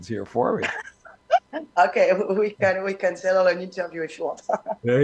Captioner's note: laughter